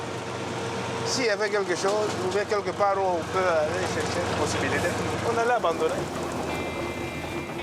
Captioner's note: foreign language